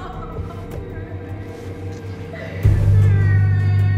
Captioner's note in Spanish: Se oye el llanto